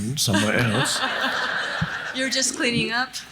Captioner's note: audience laughs